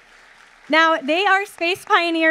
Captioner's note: audience applauding